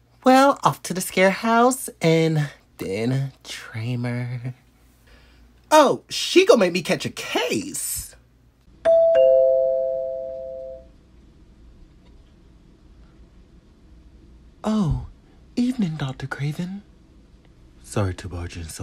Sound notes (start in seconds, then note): 8.8 doorbell